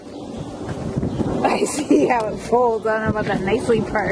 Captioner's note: laughing